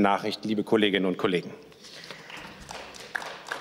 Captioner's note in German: Beifall